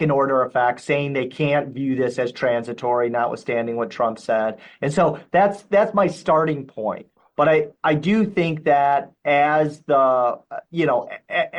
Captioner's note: shock